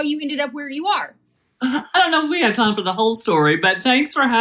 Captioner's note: laugh